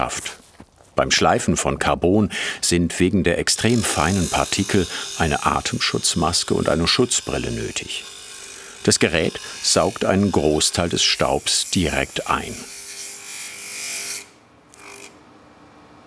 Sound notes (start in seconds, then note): 12.6 whirring